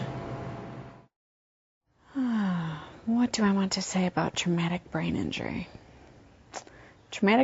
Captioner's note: sighs